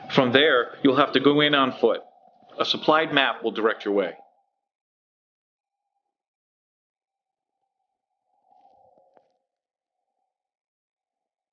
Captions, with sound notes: From there, you'll have to go in on foot. A supplied map will direct your way. (wind howling) (tense music)